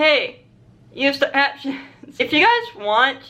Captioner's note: laughs